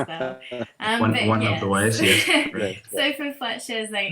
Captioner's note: laughs